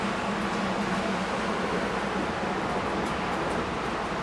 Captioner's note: rain pattering